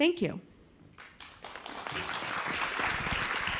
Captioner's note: applause